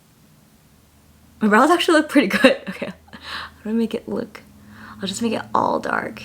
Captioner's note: laughs